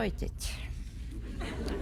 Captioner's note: laughter